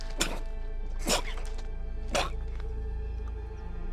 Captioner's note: chocking